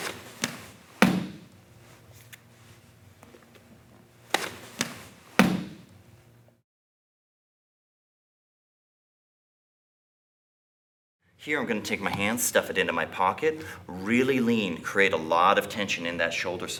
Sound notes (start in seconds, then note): 0.0 loud stomping; 0.0 loud thumping; 0.0 soft thudding; 4.3 soft thudding; 5.3 loud thumping